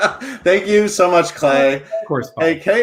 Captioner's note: laughs